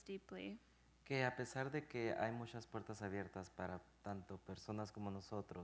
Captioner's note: speaking in Spanish